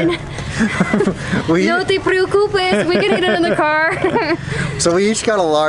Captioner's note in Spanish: risas